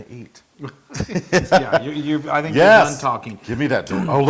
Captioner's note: laugh